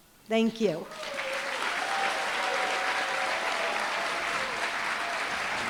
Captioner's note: applause, cheering